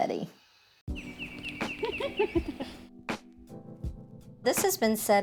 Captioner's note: birds chirping